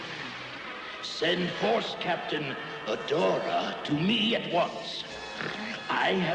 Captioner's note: snort